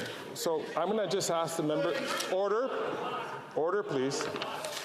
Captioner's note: off mic